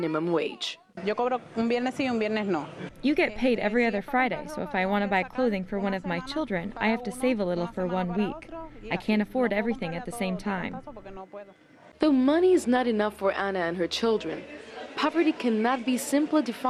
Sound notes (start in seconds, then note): 2.0 speaking in foreign language